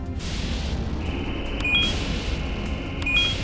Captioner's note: beeps